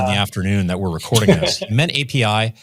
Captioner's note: laughs